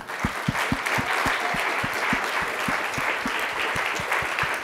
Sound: audience clapping

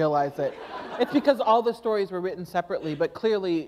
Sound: laughter

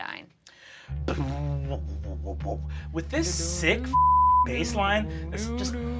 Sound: mimics bass reverb; beep

